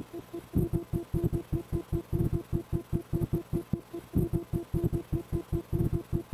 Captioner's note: morse Code sounding beeps